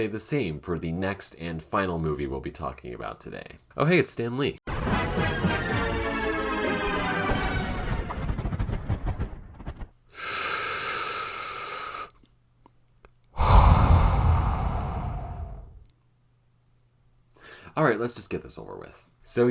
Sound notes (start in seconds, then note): 4.4 deep inhale; 6.5 deep sigh